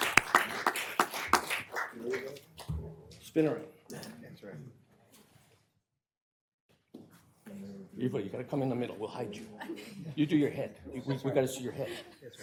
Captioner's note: applause